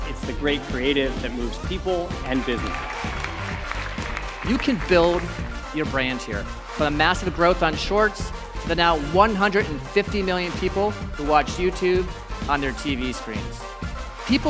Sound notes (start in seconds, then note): 2.4 applause